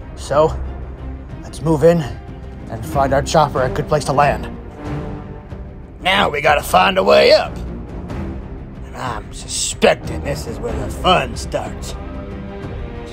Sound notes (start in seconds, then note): none